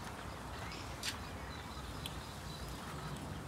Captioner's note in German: Vogelzwitschern